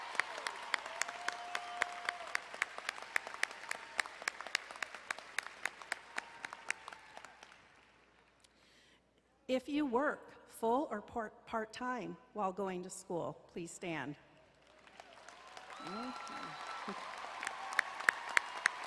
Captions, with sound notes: If you work full or part part-time while going to school, please stand. (crowd applauding)